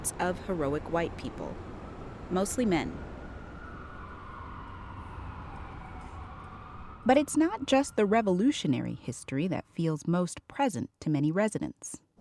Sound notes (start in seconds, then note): 4.3 siren wails